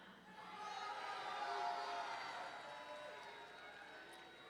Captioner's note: audience cheering